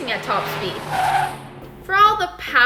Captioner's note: engine roars, tires squeal